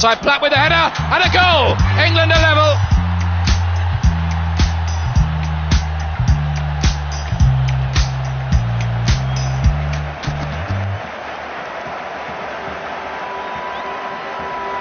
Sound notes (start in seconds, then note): 3.2 crowd cheering